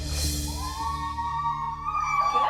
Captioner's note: cheering